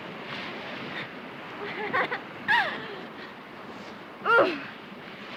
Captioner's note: laughs